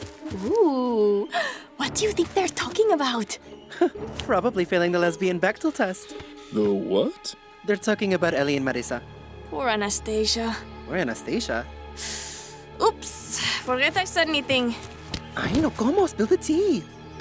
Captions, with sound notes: Oooh! What do you think they're talking about? [scoffs] Probably failing the lesbian Bechdel test. -The what? -They're talking about Ellie and Marissa. Poor Anastasia. "Poor Anastasia"? [inhales sharply] Oops! Forget I said anything. Ay, no, cómo! Spill the tea.